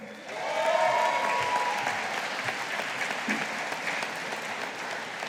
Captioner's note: audience applauding